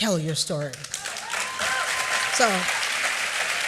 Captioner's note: applause